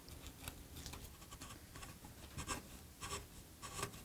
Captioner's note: gentle scraping